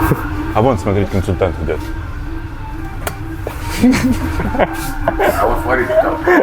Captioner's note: laughing